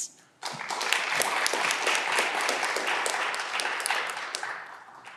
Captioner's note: audience clapping